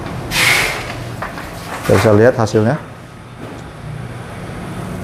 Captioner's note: PET film noise